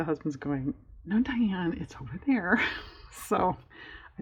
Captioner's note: laughs